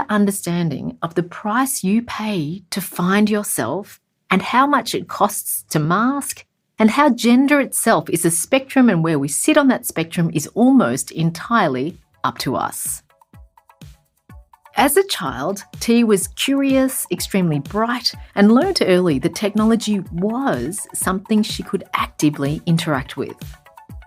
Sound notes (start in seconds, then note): 13.2 playful music; 14.6 voiceover